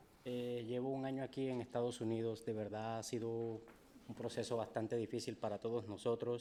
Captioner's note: speaking in foreign language